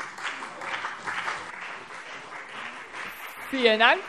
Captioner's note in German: Beifall CDU und BÜNDNIS 90/DIE GRÜNEN